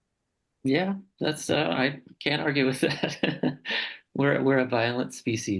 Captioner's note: chuckling